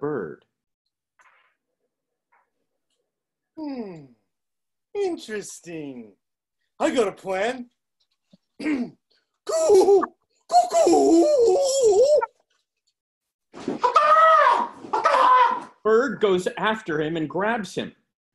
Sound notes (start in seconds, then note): 8.5 clears throat; 9.3 wild, exaggerated bird noises; 13.5 caws